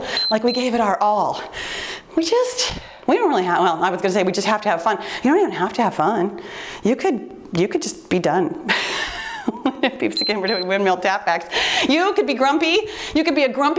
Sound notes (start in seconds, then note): 0.0 timer beeps; 8.8 laughs; 10.1 timer beeps